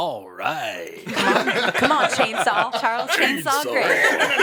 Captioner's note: all laugh